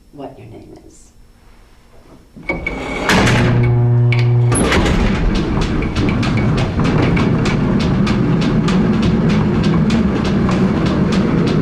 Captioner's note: elevator Sounds